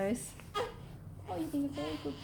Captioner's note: baby cooing